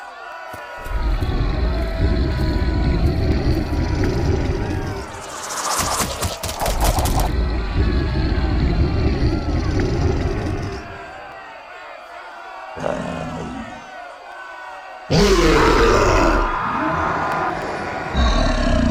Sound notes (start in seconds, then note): 0.8 growl; 15.0 roar